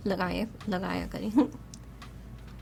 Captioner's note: chuckles